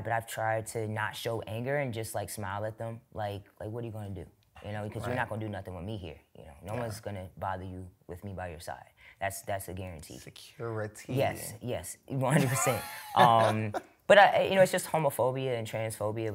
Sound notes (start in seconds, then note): 12.4 laughs